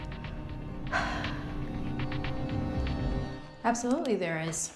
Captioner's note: Claire sighs